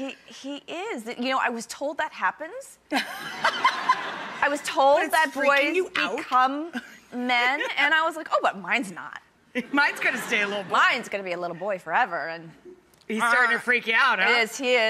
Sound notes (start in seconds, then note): 3.4 laughing